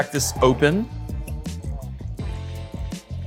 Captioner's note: bright music; cork pops; liquid pours